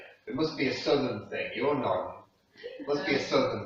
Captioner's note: southern